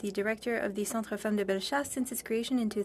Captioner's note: speaking French